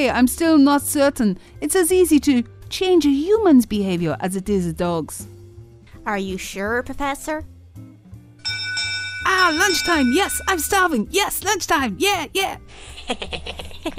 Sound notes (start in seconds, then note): 8.4 bell ringing; 12.9 dog laughing